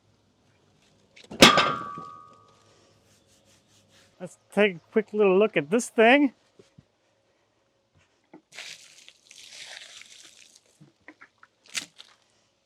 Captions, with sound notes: (metal clanging) Let's take a quick little look at this thing. (water splashing)